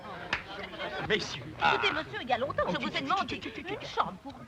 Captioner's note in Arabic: امرأة تثرثر; امرأة تتحدث بلغة أجنبية